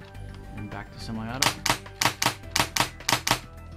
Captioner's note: gun clicks